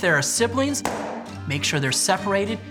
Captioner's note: pop